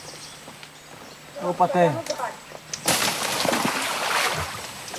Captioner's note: Portuguese spoken audio